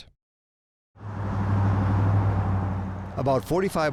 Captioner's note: car engine revving